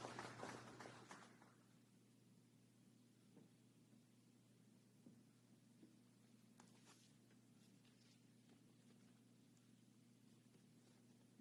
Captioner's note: applause